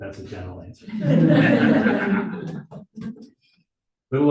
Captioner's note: audience laughing